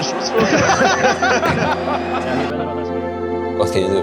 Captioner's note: people laughing